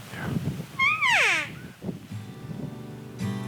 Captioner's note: elk call sounding; calm music